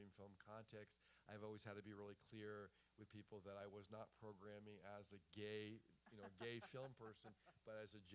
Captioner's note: laughter